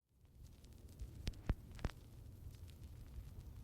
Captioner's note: audio crackling